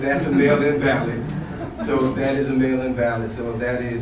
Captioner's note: laughing